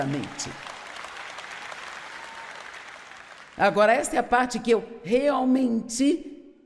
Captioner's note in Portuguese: audiência aplaude